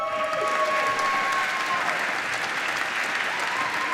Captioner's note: applause